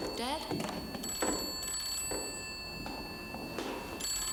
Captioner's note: phone ringing